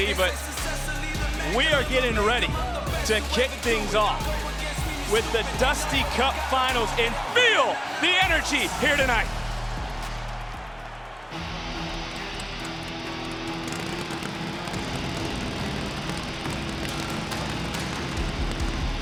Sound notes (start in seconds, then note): 11.3 upbeat rock music; 13.8 engine rumbling